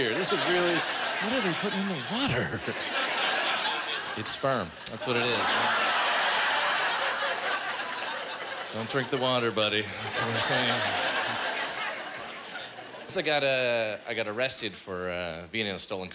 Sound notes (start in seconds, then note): 4.7 laughter